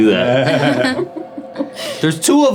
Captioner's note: ladies laughing